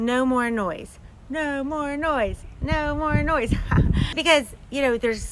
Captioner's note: laughs